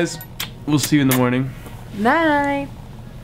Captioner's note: lips smacking on hand; smooches lips